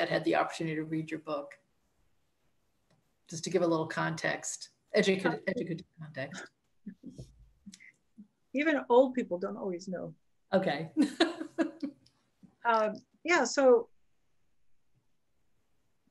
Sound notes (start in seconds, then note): 6.5 chuckles; 11.0 laughs